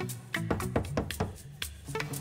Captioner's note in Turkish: kapı çalar